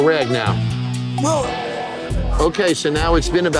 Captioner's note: gagging